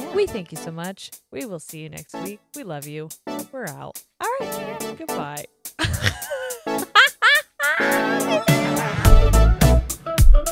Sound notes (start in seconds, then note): 5.8 both laugh